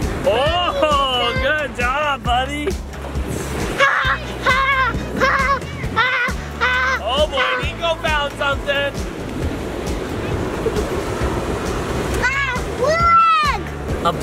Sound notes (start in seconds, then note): 0.0 waves crashing; 3.7 exclaiming excitedly; 9.5 waves crashing